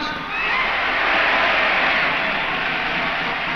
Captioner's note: crowd cheers